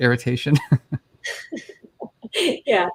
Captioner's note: chuckles